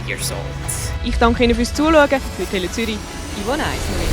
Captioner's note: speaking in Swiss German